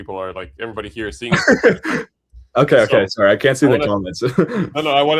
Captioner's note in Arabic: ضحك